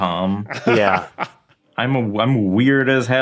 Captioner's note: laughs